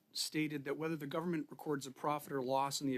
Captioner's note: speaking French